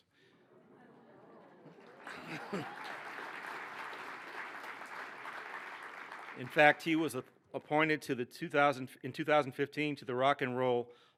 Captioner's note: cheering and applause